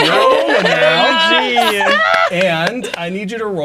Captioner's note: all exclaiming and laughing